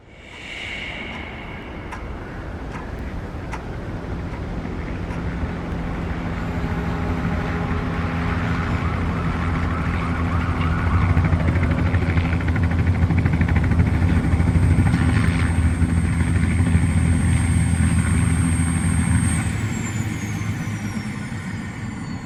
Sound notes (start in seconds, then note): 0.0 static whoosh; 1.8 wind gusting; 4.0 helicopter approaching; 12.2 helicopter idling; 18.9 motor off